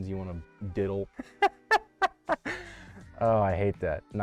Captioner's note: chuckles